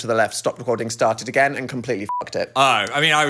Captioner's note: beep